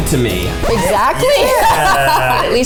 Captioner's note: laughing; record scratching